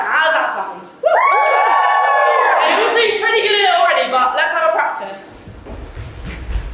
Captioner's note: audience cheers